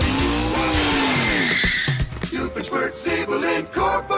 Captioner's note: brakes squealing